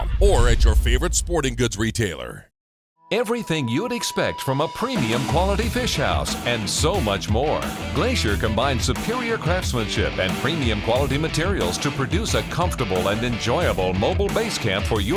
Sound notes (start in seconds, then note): 3.2 voiceover